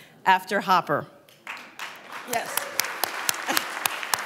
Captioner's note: applause